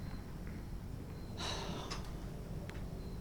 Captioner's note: sighs